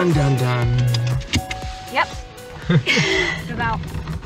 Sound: laughing

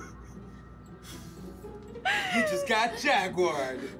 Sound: laughs

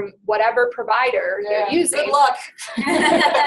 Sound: voiceover

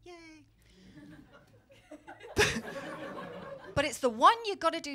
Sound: laughter

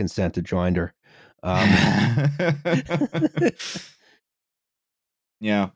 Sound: laughter

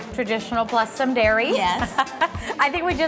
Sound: laughs

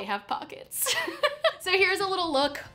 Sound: laughs

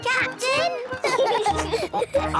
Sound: laughing

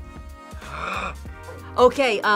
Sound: gasps

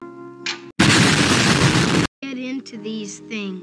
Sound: boom!

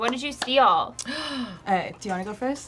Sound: gasps

